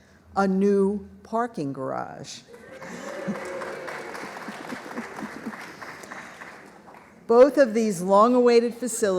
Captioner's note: applause